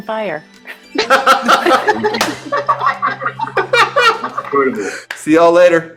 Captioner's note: laughter